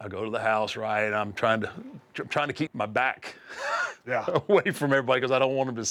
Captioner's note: laugh